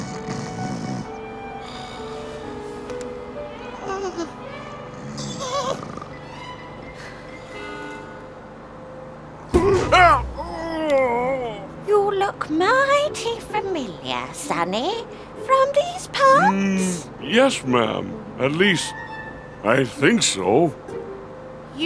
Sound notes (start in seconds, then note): 0.0 Big Bo snoring; 3.4 old lady grunts; 7.1 old lady sighs; 9.6 Big Bo groans